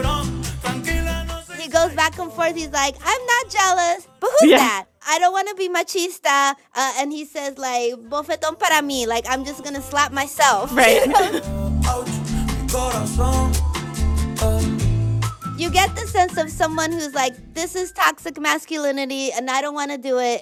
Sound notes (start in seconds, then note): 1.0 singing in Spanish; 7.9 speaking Spanish; 14.9 singing in Spanish